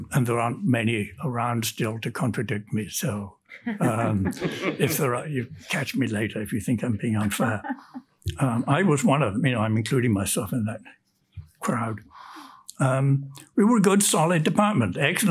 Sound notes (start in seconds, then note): 3.8 panelists laugh; 7.2 woman laughs